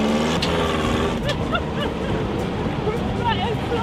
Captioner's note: laughter